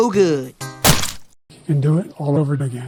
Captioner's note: splat x2